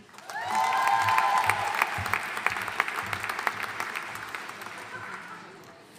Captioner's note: audience cheering and applauding